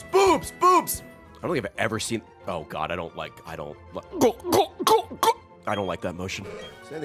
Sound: choking noises

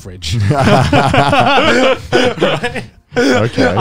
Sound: all laughing

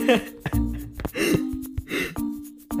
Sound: inhale and inhale

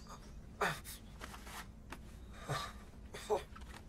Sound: jason grunting

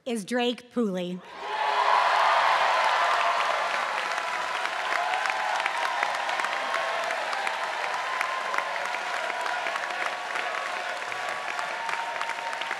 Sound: applause

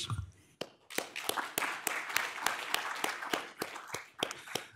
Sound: audience applauding

